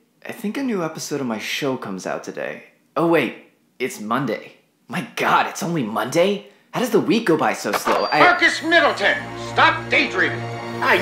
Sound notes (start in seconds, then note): 7.8 intercom startup; 9.1 intercom